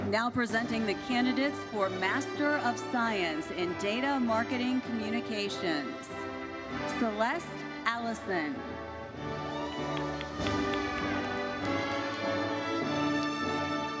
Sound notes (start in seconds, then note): 9.5 audience cheers